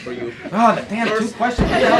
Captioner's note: laughter